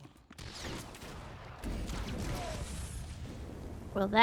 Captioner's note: explosion